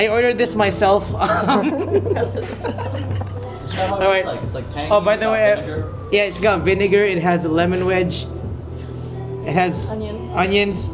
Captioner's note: laugh